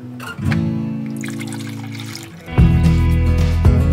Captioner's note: water trickling; moderate music